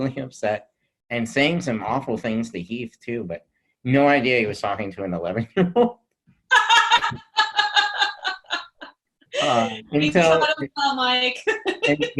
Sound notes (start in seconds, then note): 6.6 huge laugh